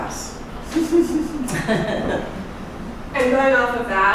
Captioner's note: laughing